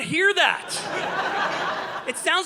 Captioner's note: audience laughing